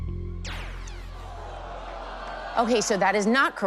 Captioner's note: zap